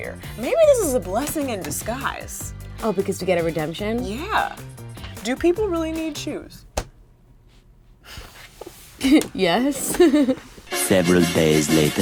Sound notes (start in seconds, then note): 9.0 laughing; 10.7 suspenseful music